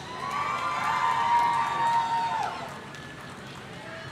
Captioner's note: audience cheering